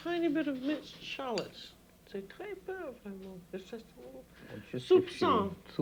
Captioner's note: french